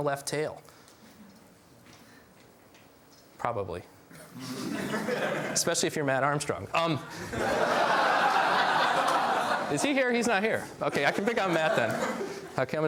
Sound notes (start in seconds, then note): 4.2 laughs; 7.1 laughs